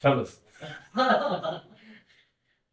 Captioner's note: audience laughs